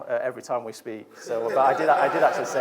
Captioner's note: audience laughs